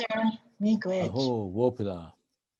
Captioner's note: speaking in foreign language